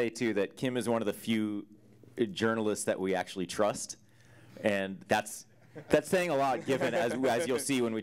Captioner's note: audience Laughter